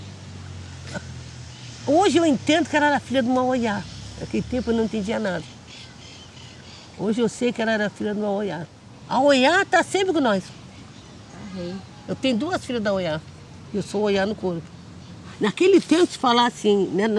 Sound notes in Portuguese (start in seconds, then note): 4.2 pássaros cantam ao fundo; 10.5 crianças conversam ao fundo